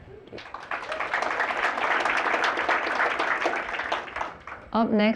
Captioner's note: applause